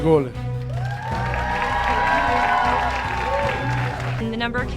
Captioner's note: audience cheering